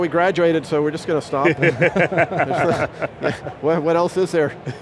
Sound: all laughing

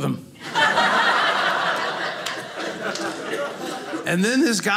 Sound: audience laughing

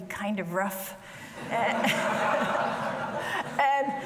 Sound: audience laughing

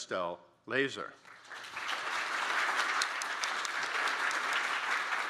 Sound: audience applauding

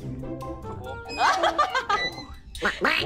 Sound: laughing

